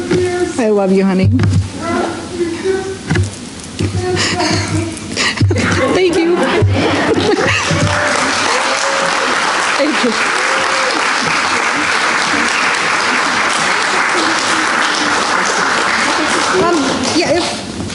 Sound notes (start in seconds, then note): 6.2 applause